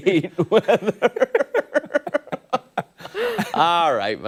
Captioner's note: laughter